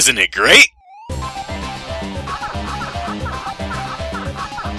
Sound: Peak Pac-Man noises reach their apex

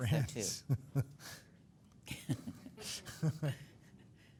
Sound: laughing

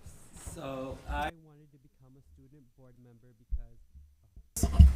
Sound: audio clipping

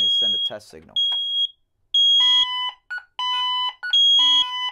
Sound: high-pitched beeping

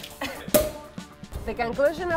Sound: cork pings

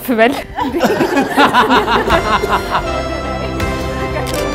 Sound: laughter

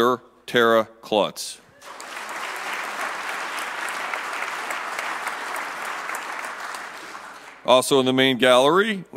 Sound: applause

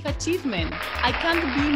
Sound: crowd cheering

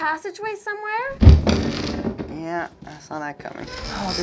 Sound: creak

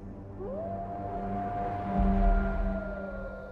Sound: howling

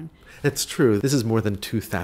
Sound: voiceover

